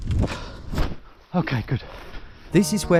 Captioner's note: feet stomping